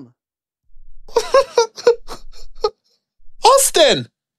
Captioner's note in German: weint